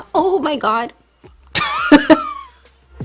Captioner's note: laughs uncontrollably